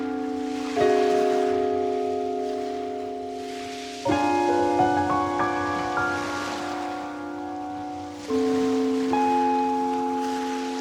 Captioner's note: grey waves rise and fall unseen